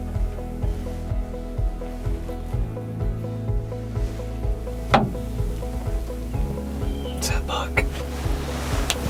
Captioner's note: whispering